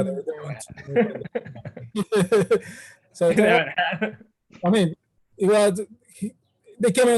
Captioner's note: laugh